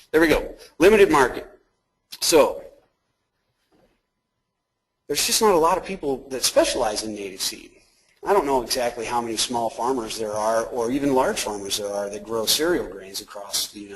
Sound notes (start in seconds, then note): none